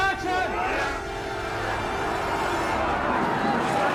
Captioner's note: all shouting